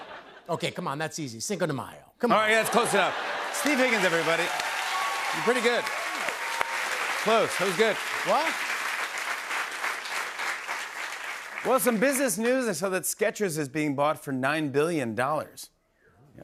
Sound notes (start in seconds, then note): 5.8 cheers and applause; 8.7 applause